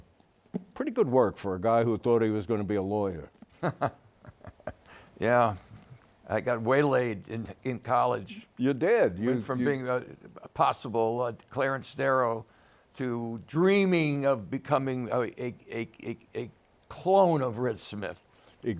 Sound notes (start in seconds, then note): 3.5 laughs